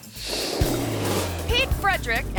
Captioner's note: screen whooshes